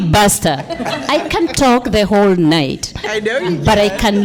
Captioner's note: laughter